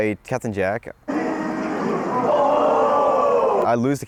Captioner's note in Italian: rumori della folla